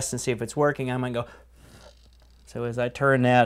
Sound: blowing sound; whir of impeller

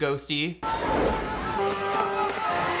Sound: wind whooshing

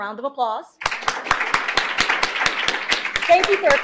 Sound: applause

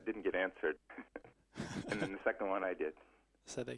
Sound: laughs

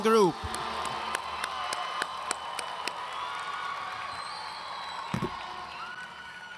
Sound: audience cheering and applauding

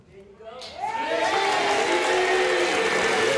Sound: audience cheers

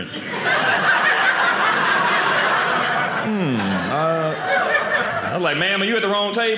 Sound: audience laughing

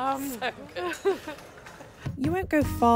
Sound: laughs

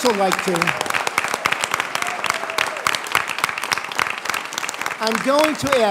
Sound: applause

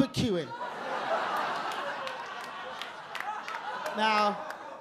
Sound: audience laugh

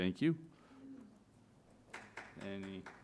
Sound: applause

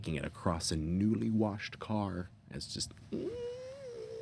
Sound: squealing

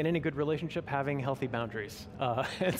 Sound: laughing

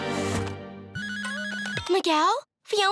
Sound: phone ringing

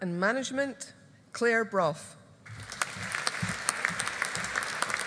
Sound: audience applauding

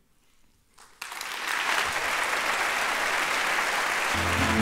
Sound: applause

